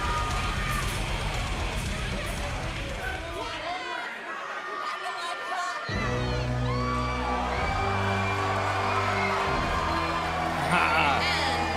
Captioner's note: crowd cheering